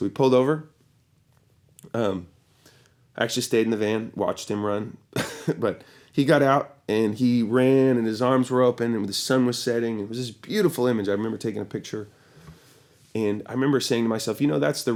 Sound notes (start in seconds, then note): 5.2 chuckles